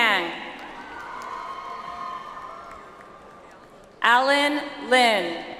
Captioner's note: audience applauds